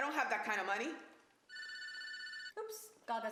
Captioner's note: phone ringing